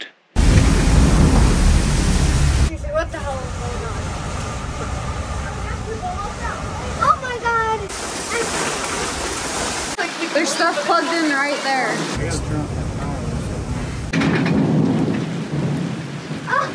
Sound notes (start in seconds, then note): 0.1 storm roaring; 8.0 rain spattering